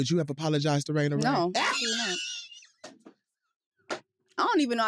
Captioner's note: laughs